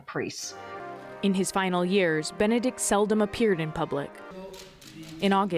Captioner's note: voice-over